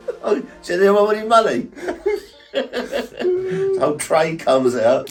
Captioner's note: both laughing